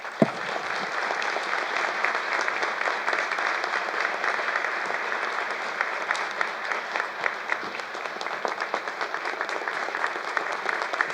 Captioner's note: applause